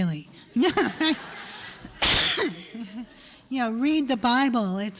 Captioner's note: laughter